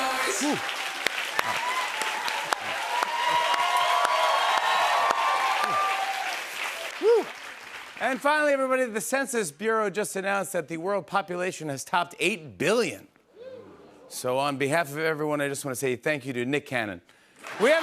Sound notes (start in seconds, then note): 2.5 cheers and applause